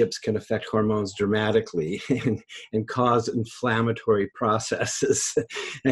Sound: laughs

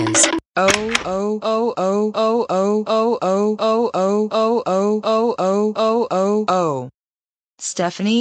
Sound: door opens

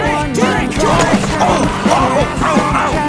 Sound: grunting

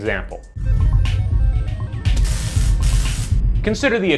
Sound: computer tones and static zapping

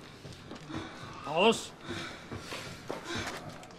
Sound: heavy breathing

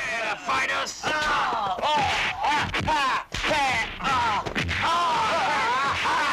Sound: fighting sound effects

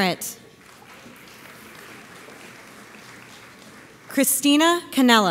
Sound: audience applauds

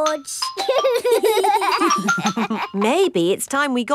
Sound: giggling

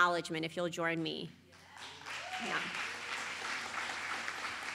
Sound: applause

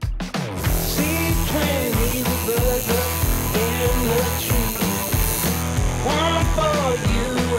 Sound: tattoo needle buzzing

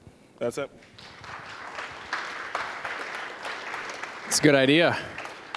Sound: applause

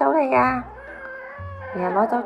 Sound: meows and grunts

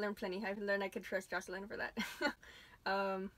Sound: laughs

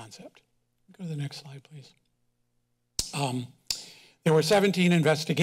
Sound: kisses teeth

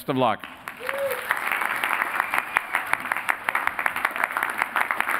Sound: applause

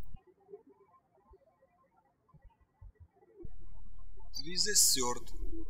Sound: birds chirping

